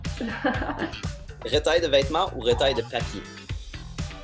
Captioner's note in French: rire